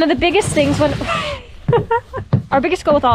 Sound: laughs

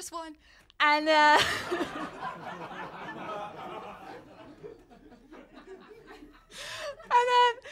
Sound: laughter

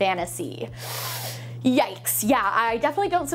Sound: sucks lip

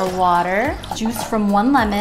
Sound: pouring water

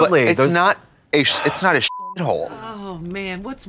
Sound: beep

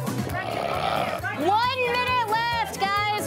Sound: burping

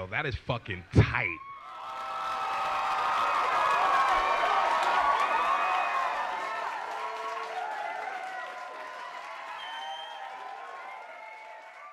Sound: crowd cheers

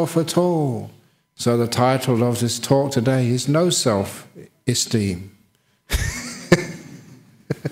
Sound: laughs

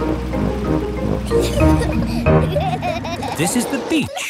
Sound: children giggling

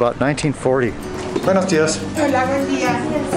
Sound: woman speaking Spanish

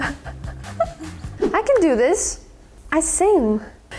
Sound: laughs softly; image squelches; image whooshes

